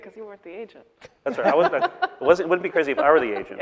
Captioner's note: laughing